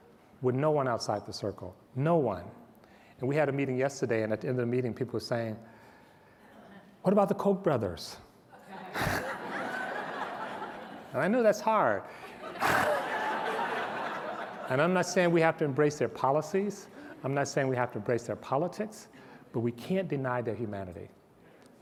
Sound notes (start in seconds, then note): 8.5 laughter